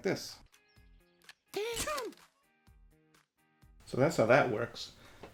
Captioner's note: camera clicks